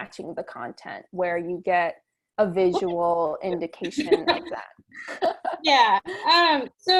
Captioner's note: laughter